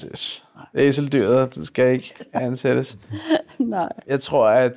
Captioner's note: chuckles